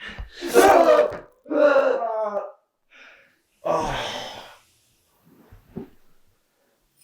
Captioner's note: knife slashes; Brian groaning